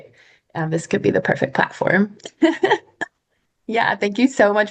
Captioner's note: laughs